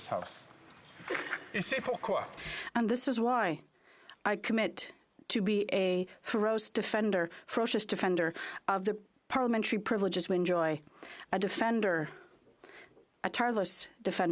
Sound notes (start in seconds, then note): 4.7 speaking French